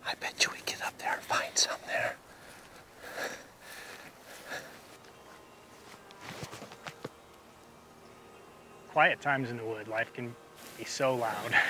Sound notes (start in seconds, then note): 3.1 heavy breathing